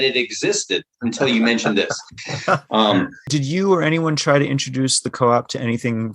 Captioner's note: laughter